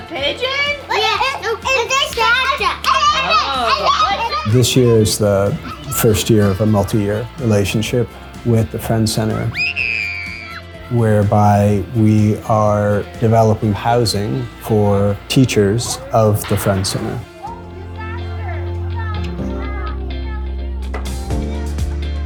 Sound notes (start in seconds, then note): 0.0 children speaking; 9.6 child yelling happily